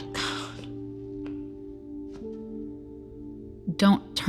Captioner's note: more sniffling